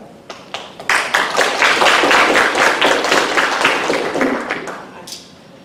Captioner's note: applause